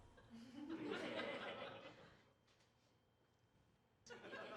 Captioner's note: audience laughter